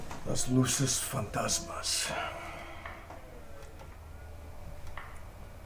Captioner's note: Mario speaks in a foreign language